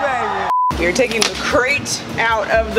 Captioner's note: high pitched beep